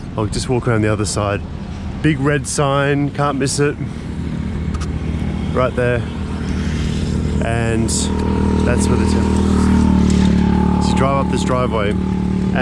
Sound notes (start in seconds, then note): 6.4 engine roaring